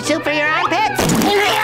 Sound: screaming

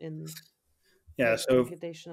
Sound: faintly speaking

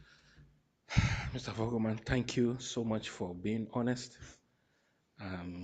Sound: sighs

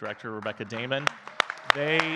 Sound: all clapping

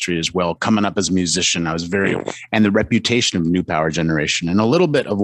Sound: static

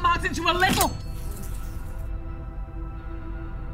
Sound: dagger clinks; flies buzz

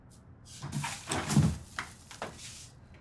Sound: refrigerator door opens

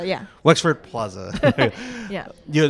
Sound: laughs

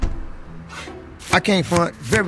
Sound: card zips; card swooshes

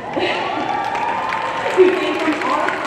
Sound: audience cheering; laughs

